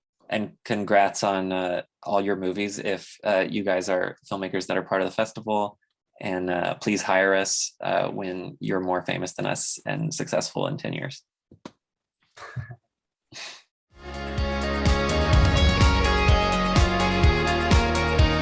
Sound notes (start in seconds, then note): 12.4 chuckles; 14.0 upbeat music